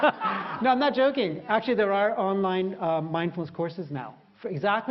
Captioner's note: 笑聲; audience feedback; laughter